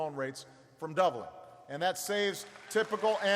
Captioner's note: applause